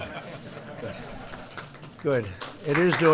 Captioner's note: laughter